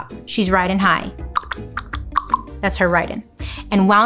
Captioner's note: imitates clacking